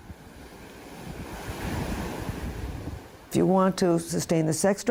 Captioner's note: waves crash